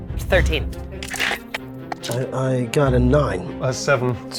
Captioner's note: die rattling